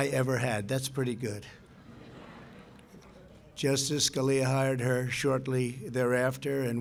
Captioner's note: laughter